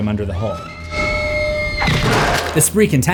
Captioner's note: screams